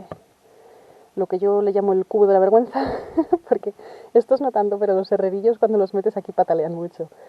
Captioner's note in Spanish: se ríe